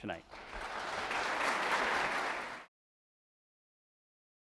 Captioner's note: crowd claps